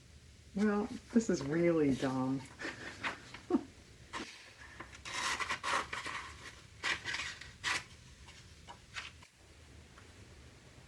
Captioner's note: laughs